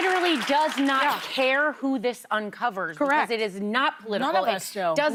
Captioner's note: applause